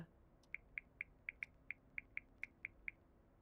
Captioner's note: keypad tones